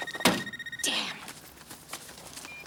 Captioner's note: phone ringing; car door thuds; Jodie sighs